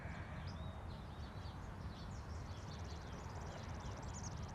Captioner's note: birds chirping